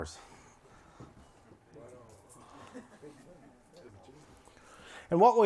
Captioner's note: indistinct chatter